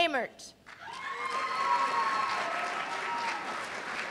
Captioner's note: cheers and applause